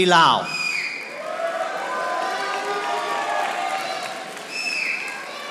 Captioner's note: audience applauding